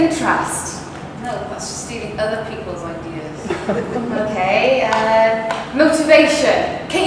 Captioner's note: laughter